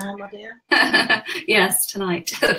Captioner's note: laughs